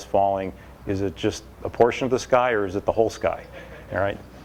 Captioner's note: laughter